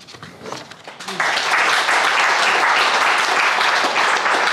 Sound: crowd applauding

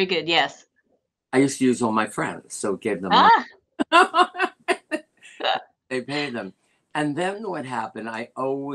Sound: laughter

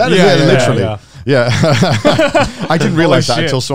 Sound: laughing

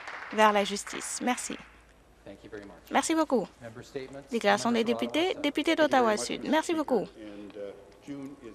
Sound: some Applause

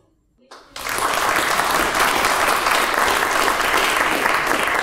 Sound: audience applauding

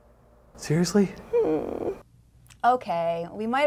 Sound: whimper

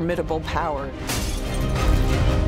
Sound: glass shatters

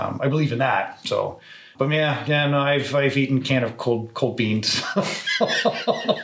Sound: laughs

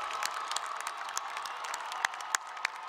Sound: applause

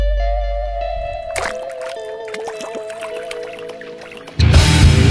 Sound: water splashes

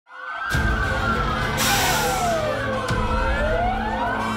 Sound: sirens wailing

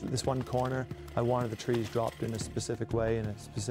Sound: adventure music; chainsaw running; voiceover

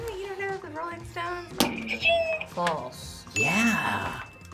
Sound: buzzer rings

